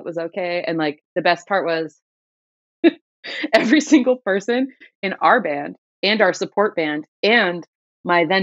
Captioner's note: laughter